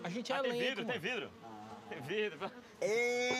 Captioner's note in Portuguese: abelhas zumbindo